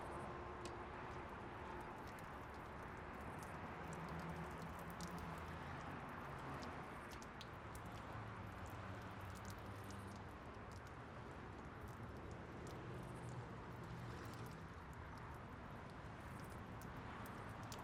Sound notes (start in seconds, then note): 1.9 dripping sounds